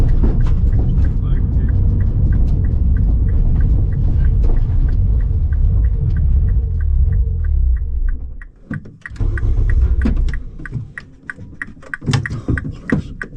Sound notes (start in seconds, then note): 8.9 engine rumbling